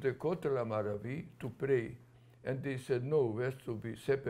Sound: non-english

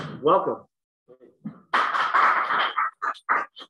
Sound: applause

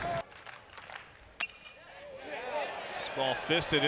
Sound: ball hitting bat

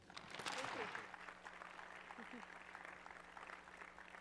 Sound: applause

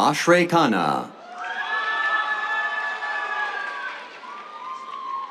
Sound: cheers, applause

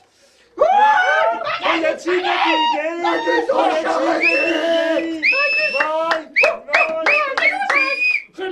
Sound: fake celebrating sound

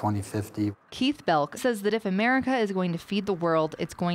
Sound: voiceover

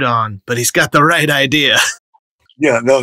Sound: laughter

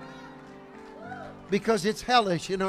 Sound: congregation clapping

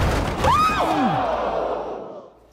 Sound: screams

